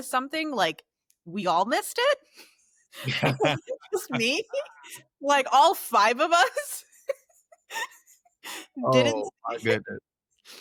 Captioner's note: laughter